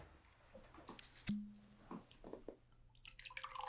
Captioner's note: cork popping